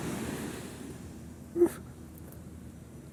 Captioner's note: crying